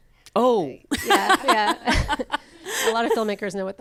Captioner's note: laughs